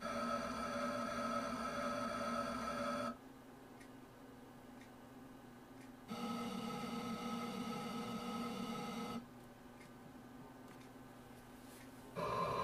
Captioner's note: motor noises